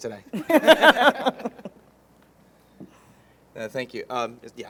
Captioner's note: all laughing